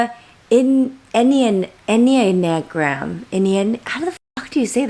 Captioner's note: stuttering